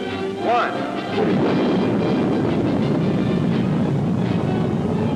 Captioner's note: rocket rumbling